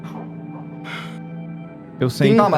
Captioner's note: sighs